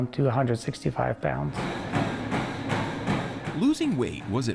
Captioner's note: feet thudding